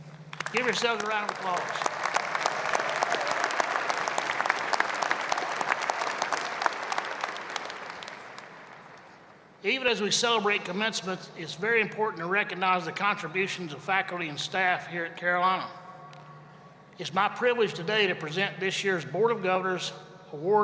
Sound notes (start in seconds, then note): 7.7 applause